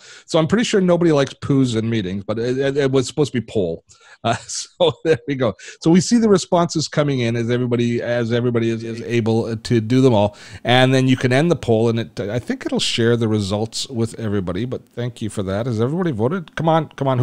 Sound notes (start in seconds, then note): 4.2 laughing